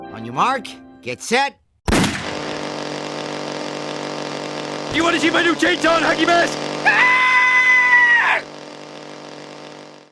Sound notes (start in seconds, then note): 6.8 screaming